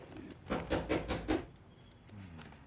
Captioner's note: knocking at door